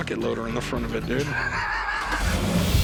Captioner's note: snickers